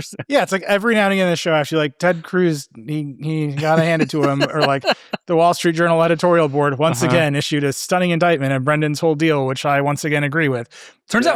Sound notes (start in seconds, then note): 0.0 laughing; 3.2 laughing